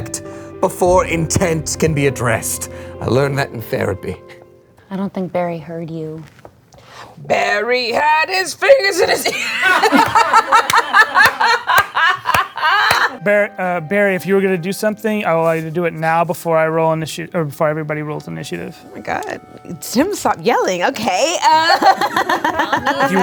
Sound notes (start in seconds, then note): 9.2 laughing; 10.2 clapping; 21.4 laughing